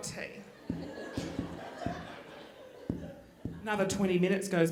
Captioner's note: microphone popping